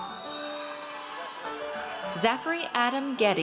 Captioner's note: audience cheers